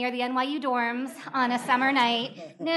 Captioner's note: laughter